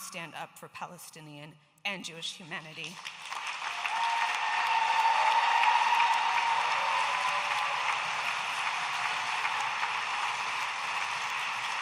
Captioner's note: audience applauding and cheering